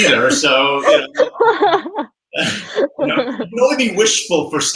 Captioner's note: laughing